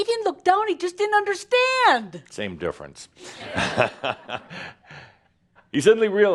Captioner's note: Adamus chuckles